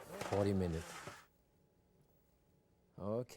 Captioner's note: rack rattling